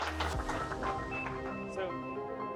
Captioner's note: audience clapping; low tempo music